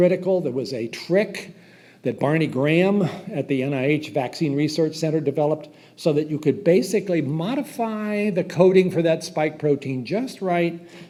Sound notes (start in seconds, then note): none